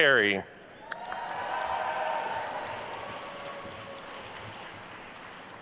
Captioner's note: attendees cheering and applauding